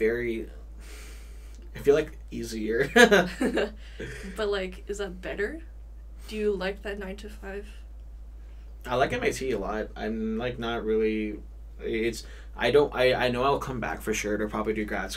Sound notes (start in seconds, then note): 2.9 both chuckle